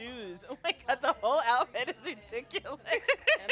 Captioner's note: laughs